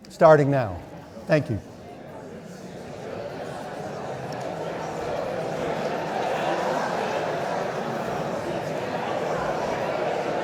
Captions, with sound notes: Starting now. Thank you. (audience indistinctly chattering)